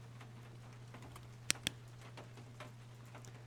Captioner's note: flashlight Clicks On